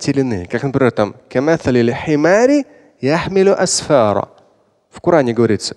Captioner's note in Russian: говорит на арабском